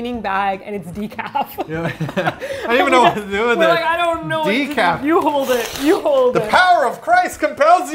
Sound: laughs

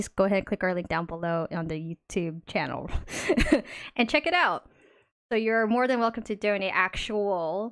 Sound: laughs

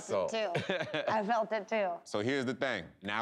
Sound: laughs

